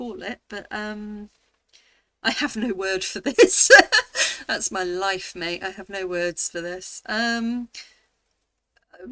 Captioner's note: laughing